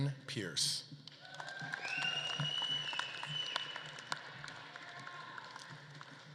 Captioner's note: audience claps and cheers